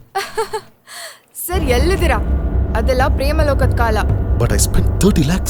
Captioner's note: laughing